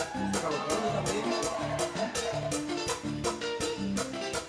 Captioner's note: audience cheering